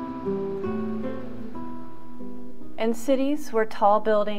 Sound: traffic noise/music

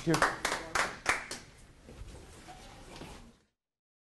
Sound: applause

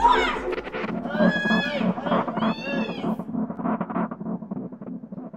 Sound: both continue yelling

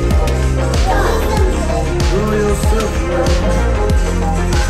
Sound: kid's talking

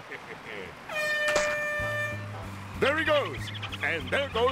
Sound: air horn blows

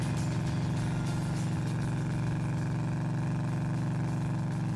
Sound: motor humming

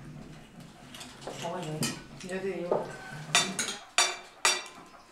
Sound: chatting in Spanish

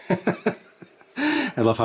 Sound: laughter

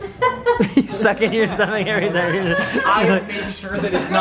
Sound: laughs

